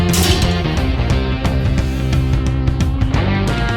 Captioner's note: knocking metal